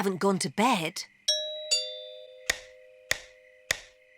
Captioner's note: doorbell chimes